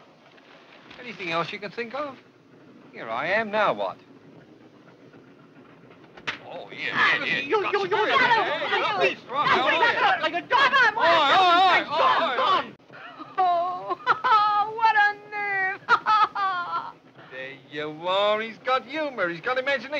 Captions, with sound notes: Anything else you can think of? Here I am. Now what? Oh, here, here, here. You, you, you-- [ALL CLAMORING] And all that beautiful lace that I-- Oh, what a nerve. There you are. He's got humor, he's got imagination, he has.